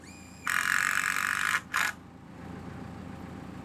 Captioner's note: drill buzzing